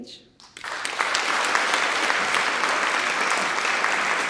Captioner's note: audience applauds